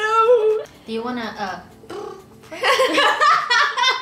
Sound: voice warming noise

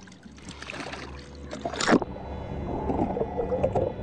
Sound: splashes

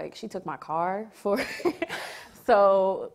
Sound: laughs

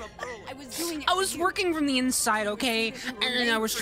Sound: laughing; as Black Cat, words slurred together

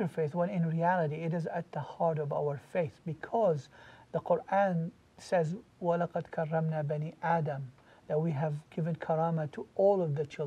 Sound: Arabic

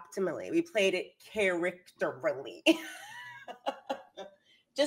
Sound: laughs

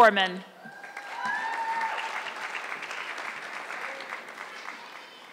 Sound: audience clapping

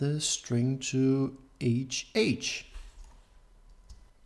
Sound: hh

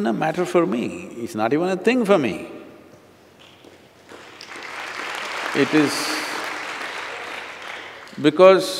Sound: applause

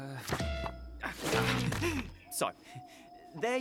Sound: chuckles awkwardly

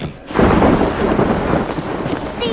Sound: thunder clap

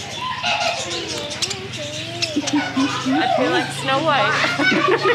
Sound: birds chirping

